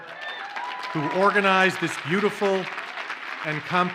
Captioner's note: audience cheers and applauds